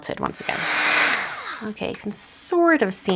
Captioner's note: heat tool whirs